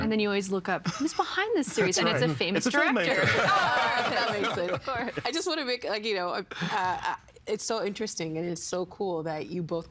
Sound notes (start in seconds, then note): 3.1 all laughing